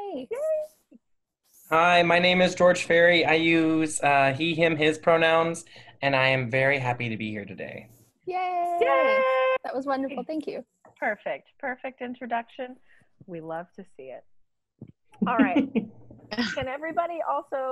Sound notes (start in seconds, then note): 9.9 cheering